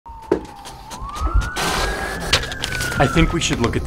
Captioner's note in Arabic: صفارات الشرطة تدوي